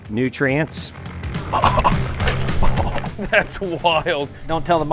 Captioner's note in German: chuckles